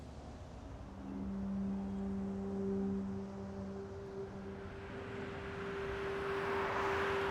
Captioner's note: soft somber music; traffic whooshing